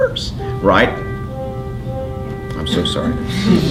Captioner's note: phone rings